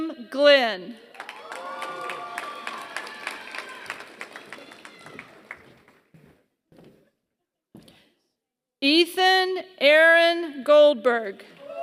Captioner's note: applause; applause